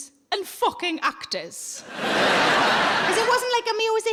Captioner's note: audience laughs